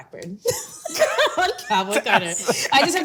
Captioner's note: both laughing